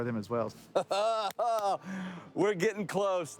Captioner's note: laughing